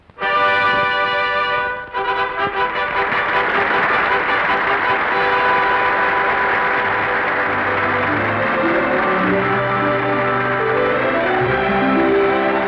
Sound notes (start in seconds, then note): 0.1 trumpet fanfare; 2.0 applause; 3.3 fanfare continues